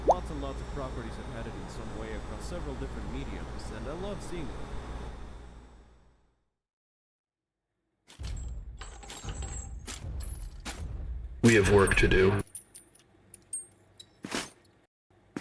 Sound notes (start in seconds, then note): 8.1 blows landing, chains rattling